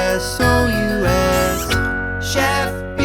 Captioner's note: kiss sound